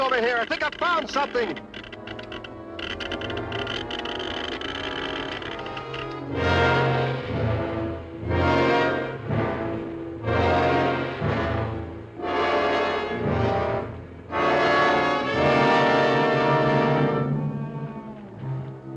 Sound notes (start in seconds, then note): 2.2 machine crackling; 2.2 suspenseful music; 6.1 ominous music